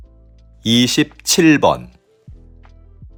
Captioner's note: Korean audio